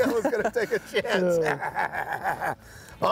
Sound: laughing

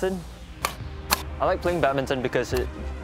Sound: shuttlecocks being hit

